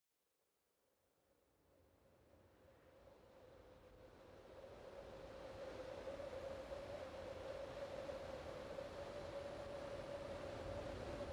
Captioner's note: desolate wind sounds